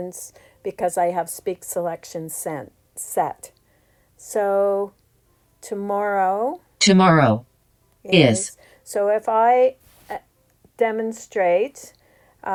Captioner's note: iPad speaks "tomorrow tomorrow